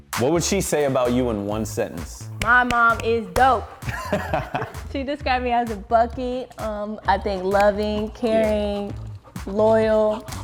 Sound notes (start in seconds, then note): 2.0 clap